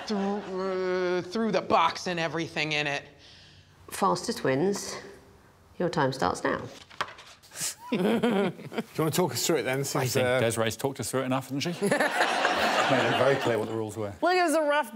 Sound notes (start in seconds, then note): 6.7 paper rustling; 9.8 Desiree chuckling